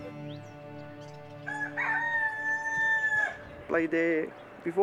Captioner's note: rooster crowing